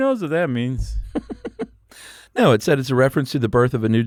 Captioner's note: laughs